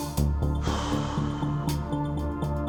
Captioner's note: sighs